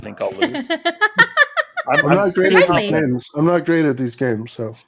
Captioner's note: laughing